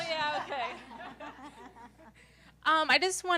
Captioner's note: laugh